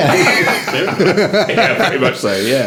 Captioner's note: all laughing